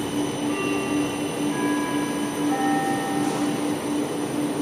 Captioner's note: ding, deng, dong